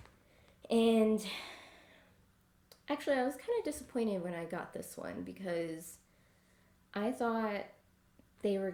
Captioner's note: sigh